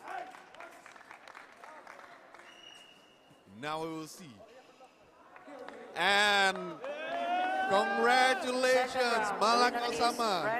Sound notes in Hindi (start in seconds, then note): 0.0 तालियां